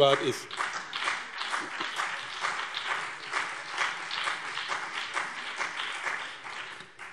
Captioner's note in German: Beifall BÜNDNIS 90/DIE GRÜNEN und CDU